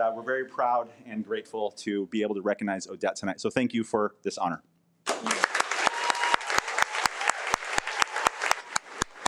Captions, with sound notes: But we're very proud and grateful to be able to recognize Odette tonight. Thank you for this honor. (audience applauding)